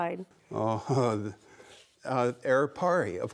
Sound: laughing

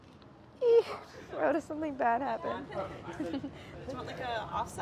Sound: moans; laughs

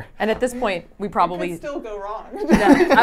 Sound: laughs

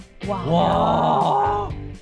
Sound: laughing

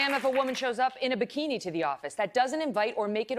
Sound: applause

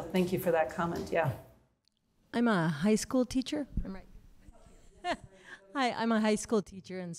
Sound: laughter

